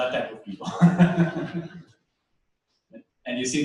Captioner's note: laughter